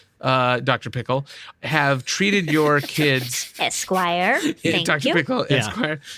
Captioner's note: laughter